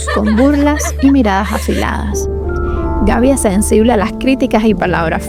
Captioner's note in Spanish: risas